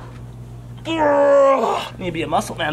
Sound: grunts

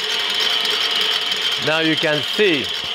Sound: machine whirring

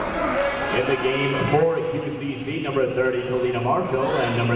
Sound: people shouting in the crowd; muffled voice speaking over speaker

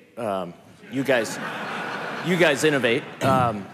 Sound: laughter

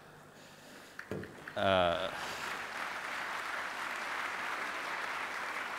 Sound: audience applause

